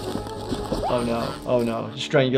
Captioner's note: bouncy music; Cuddles screaming